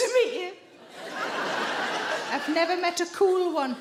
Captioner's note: audience laughing